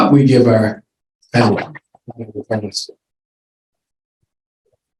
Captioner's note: mic cuts out